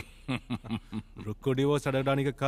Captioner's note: Laughs